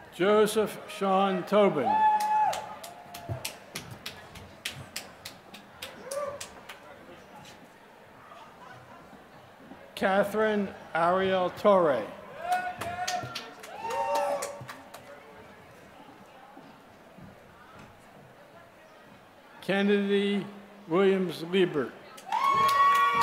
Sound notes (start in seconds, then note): 6.2 applause; 16.7 applause; 22.1 applause